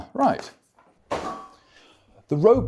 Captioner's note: clank